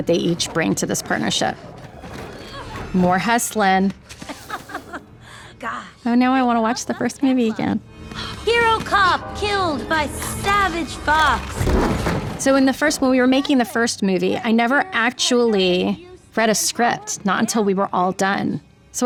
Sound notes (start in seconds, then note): 4.2 evil chuckle